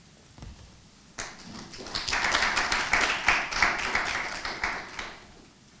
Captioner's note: audience clapping